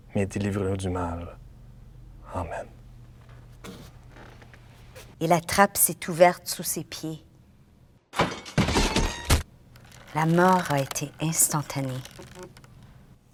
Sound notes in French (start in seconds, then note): 8.1 Bruit de trappe qui s’ouvre